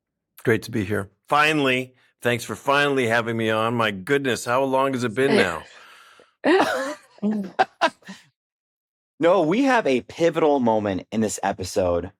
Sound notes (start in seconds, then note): 6.4 laughs